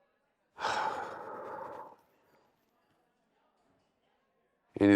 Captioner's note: bill sighs